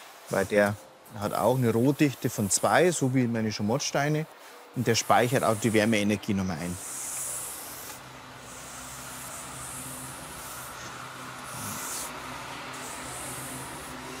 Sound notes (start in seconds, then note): 7.8 distant traffic noises